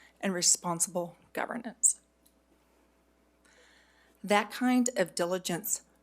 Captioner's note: none